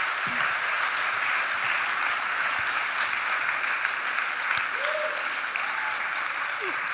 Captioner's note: audience cheering and applauding continues